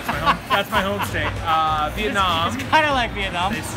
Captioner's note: laughs loudly